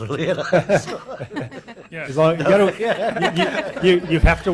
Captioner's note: laughing